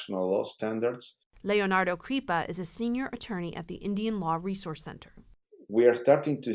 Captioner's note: voice-over